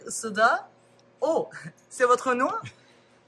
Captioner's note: speaks French